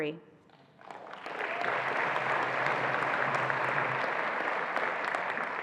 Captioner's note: attendees applauding